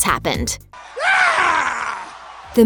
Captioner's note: the scream